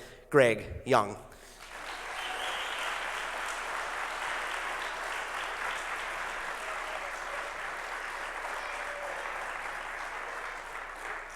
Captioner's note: applause